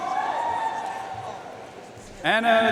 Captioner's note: audience cheering and applauding